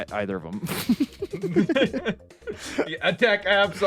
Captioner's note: both laughing